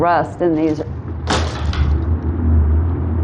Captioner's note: crash